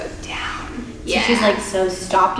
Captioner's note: whispers